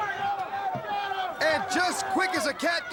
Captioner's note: crowd chatter